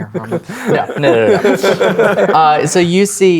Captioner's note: players laughing